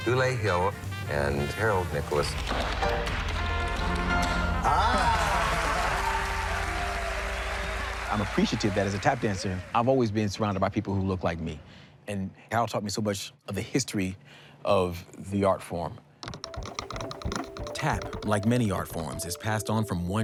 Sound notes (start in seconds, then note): 6.3 cheering and applause